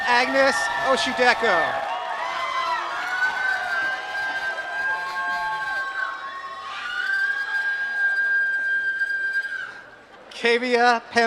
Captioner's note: applause